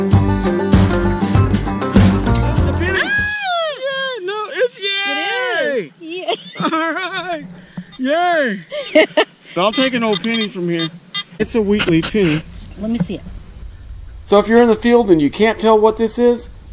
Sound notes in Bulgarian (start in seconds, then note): 6.1 смях